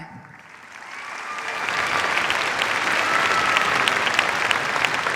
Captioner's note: cheers, applause